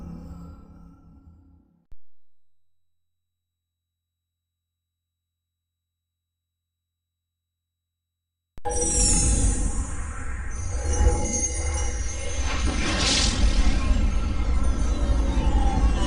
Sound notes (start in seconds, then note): 1.8 silence; 9.9 digitized dramatic sounds